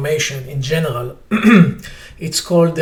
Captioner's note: clears throat